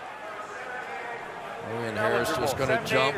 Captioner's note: stadium announcements